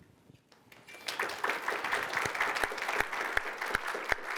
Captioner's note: applause